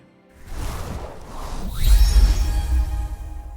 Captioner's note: whoosh